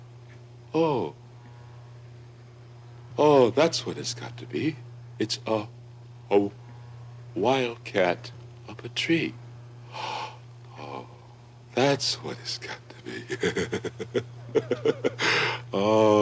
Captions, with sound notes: Oh. Oh, that's what it's got to be. It's a, a wild cat up a tree. Oh, that's what it's got to be [chuckles]. Oh,